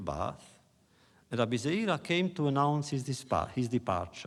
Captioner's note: foreign language